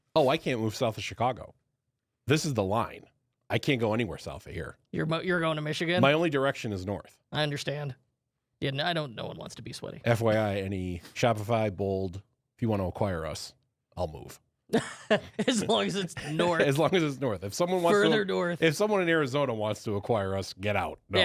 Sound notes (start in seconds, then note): 14.8 laughs